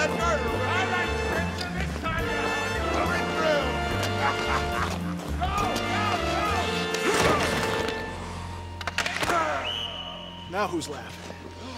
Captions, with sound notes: [ LAUGHING ] [ GROANING ] NOW WHO'S LAUGHING?